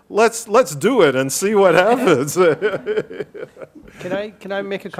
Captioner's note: group laughing